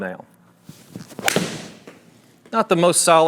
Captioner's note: golf club thwacks